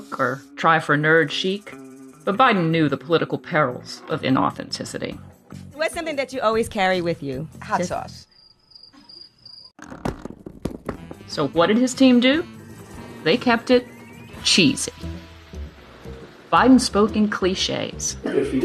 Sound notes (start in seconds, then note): 8.2 crickets chirping; 9.9 crunching